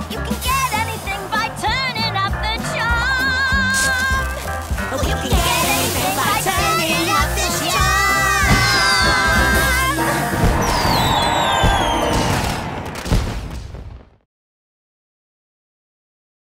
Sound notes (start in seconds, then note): 10.0 crowd cheers